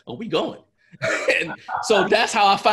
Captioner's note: laughs